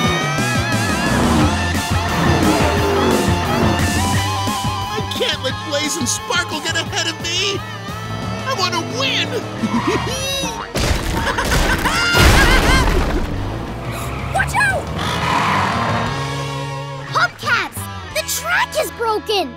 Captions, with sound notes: I can't let Blaze and Sparkle get ahead of me! I want to win! [laughing] Watch out! Hubcaps, the track is broken!